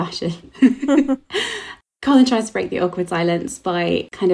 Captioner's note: laughter